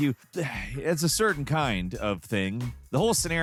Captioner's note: sighs